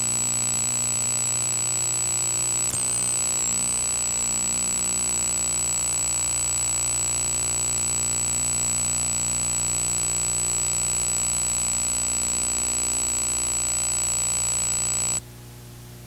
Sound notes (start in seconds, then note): none